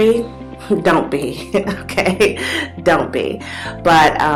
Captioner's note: laughs